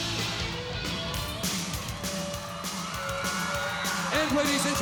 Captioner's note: upbeat music; crowd cheering